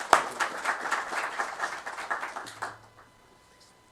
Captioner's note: applause